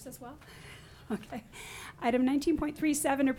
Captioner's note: laughs